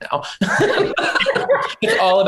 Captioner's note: laughter